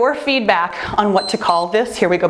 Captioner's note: timer beeps